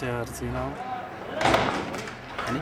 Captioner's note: rocks hitting jeep